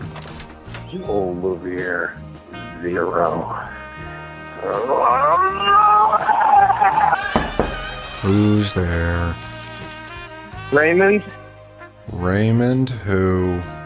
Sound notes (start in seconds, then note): 4.5 groaning; 7.2 door knocking